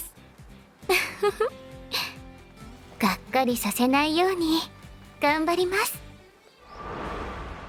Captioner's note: laughs